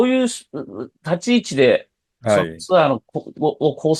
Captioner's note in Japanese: 咳払い